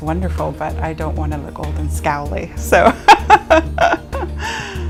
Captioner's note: laughing